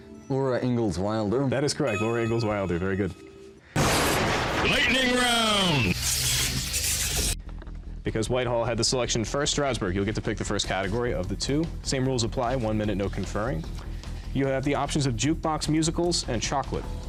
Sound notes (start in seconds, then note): 3.3 intense male voice; 15.7 intense music